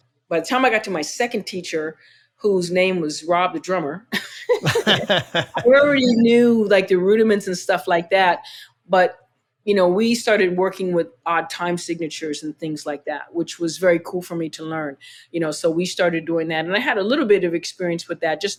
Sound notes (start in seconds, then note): 4.1 laughter